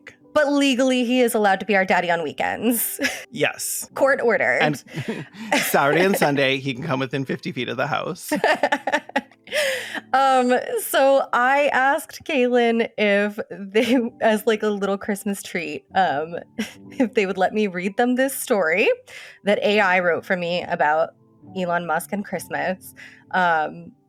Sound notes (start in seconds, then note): 10.3 laughs